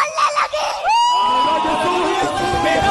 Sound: hysterical reaction

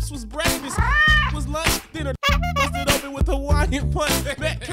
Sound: meows; honks

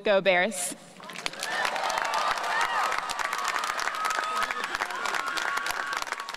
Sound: audience clapping and cheering

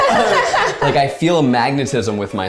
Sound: group laughs

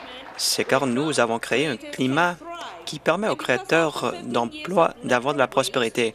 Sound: applause

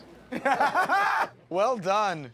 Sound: laughter

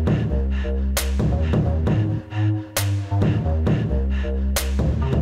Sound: rhythmic breathing

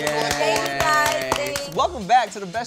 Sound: cheering

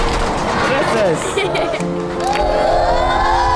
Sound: giggling

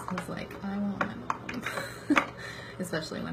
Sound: laughs

